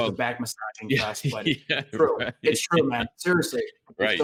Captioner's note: laughs